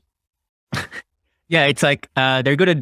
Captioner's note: chuckles